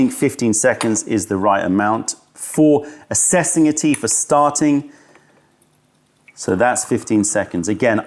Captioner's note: pouring tea